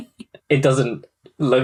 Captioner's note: laughs